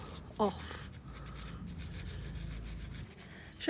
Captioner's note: scrubbing